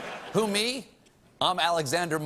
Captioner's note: laughter